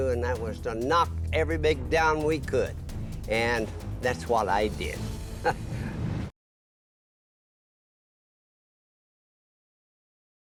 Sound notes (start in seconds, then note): 5.4 chuckles